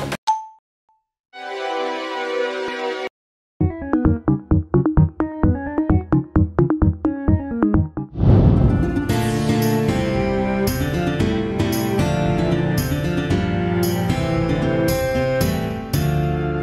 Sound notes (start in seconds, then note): 8.1 fwoosh